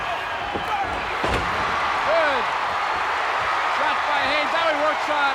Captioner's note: audience cheering; body thuds